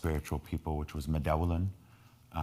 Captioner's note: speaking in foreign language